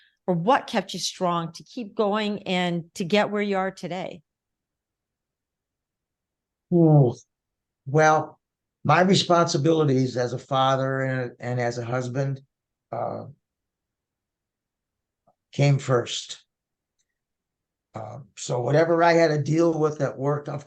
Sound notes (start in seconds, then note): 6.5 grunting